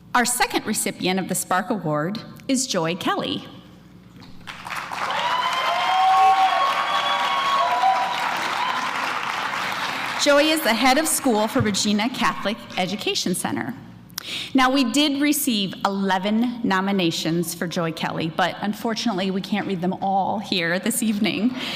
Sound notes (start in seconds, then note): 4.4 applause